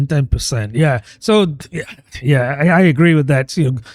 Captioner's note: uh